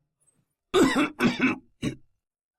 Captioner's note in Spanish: Cof